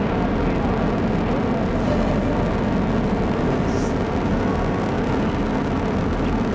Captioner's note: engines roaring